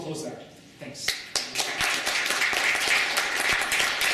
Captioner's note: applause